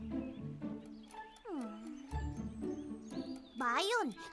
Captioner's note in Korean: 새 소리